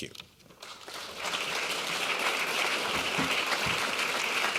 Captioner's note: clapping